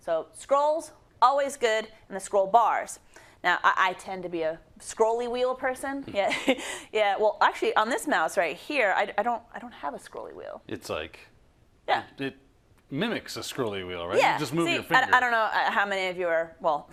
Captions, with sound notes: So, scrolls, always good, and the scroll bars. Now I tend to be a scrolly wheel person. [LAUGH] Well, actually on this mouse right here, I don't have a scrolly wheel. -It's like- -Yeah. -It mimics a scroll-y wheel, right? -Yeah. -You just move your finger. -See? I don't know how many of you are, well,